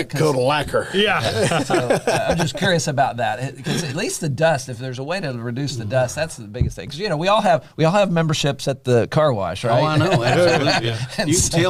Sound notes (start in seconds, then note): 1.2 laughter